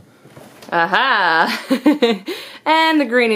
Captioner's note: laughs